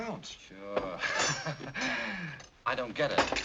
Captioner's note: Hildy's foot bangs against table